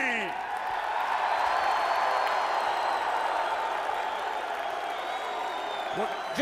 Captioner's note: crowd cheering